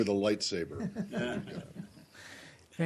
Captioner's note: laughter